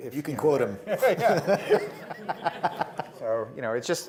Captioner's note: laughing